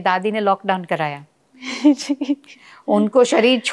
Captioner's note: they laugh